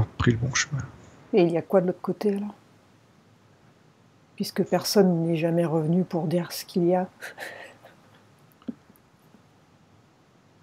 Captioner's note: laughs